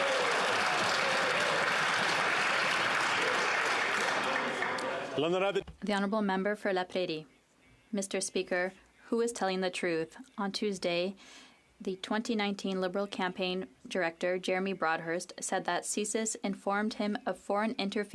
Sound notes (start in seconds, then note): 4.5 some Applause